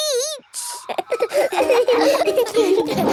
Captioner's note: all laughing